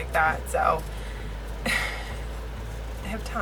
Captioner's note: laughs